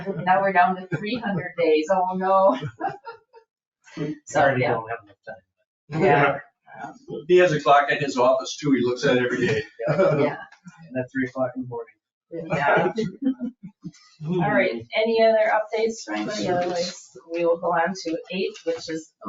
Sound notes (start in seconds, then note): 5.9 people chattering